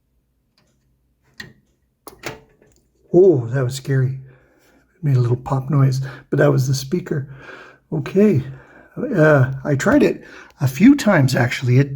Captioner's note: clicking